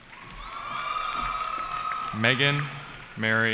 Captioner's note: cheering